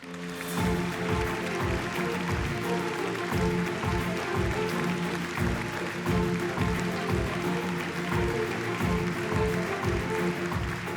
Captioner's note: applause